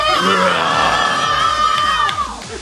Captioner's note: scream